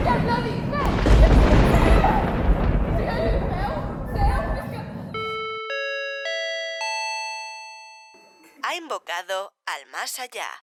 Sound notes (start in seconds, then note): 5.1 paging bell